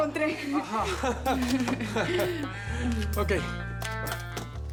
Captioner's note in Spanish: Risas